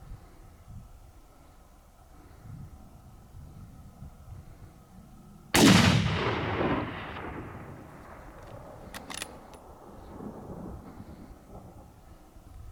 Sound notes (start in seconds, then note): 5.5 gunshot